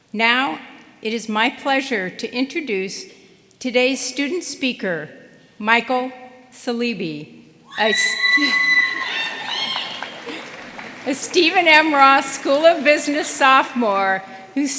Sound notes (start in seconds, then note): 7.7 audience cheering